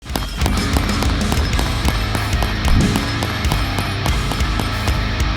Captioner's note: gun popping; energetic rock music